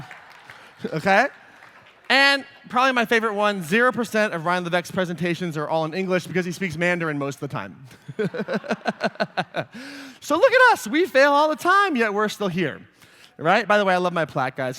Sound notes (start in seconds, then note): 7.9 laughter